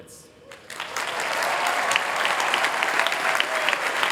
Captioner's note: applause